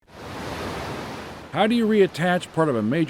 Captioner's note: waves crashing